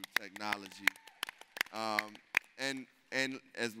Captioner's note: applauding